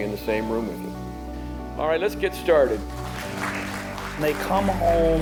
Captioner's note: courtroom applauds